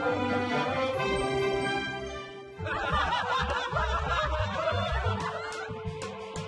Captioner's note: laughter